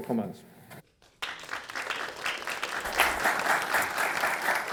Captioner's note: audience applauds